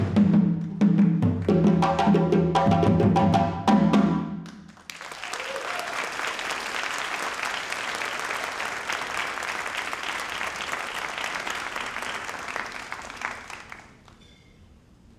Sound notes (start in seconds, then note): 4.6 everyone applauding; 4.9 attendees cheering